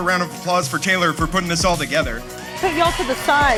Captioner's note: crowd cheering